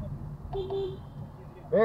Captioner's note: honkhonk